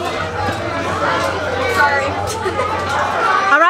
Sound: restaurant patrons chattering

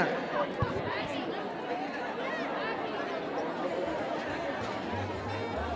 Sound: crowd Chatters

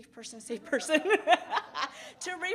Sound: both laugh

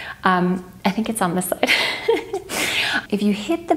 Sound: laughs

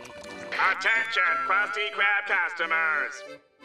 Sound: through megaphone

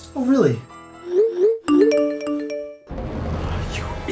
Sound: multiple text message alerts are sent

